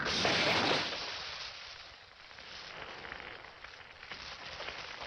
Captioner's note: flames crackling